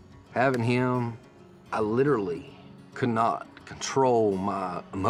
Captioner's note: says emotionally